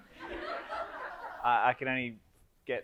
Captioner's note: audience laughs